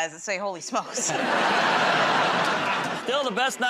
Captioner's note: laughter